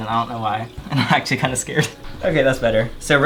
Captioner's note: chuckles